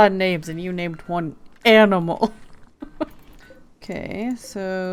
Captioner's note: laughs